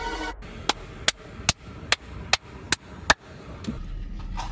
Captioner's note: clapping